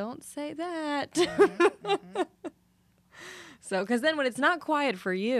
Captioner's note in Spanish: La risa